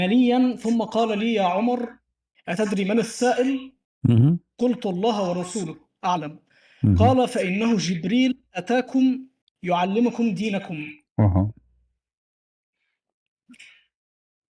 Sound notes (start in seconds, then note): 4.7 reads in Arabic; 12.2 reads in Arabic